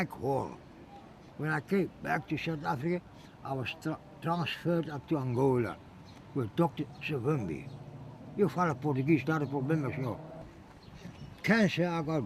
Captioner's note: speaks Portuguese